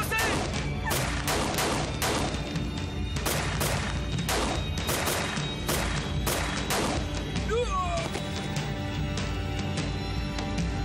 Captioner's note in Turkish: Kurşun sesleri